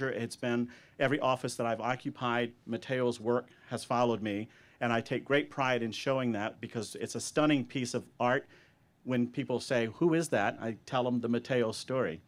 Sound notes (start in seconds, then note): none